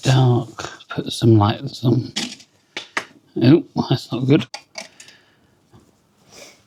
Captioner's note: crash